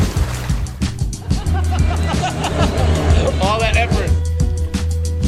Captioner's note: laughing